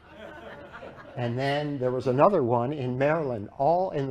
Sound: laughter

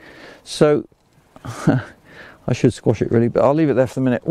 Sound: laughs

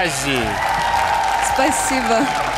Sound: cheers

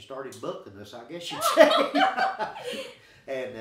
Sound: laughing

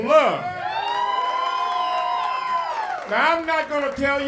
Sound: cheering

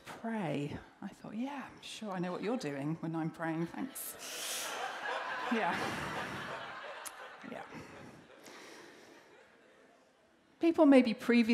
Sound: laughter

